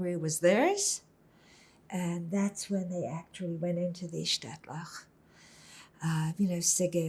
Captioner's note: hebrew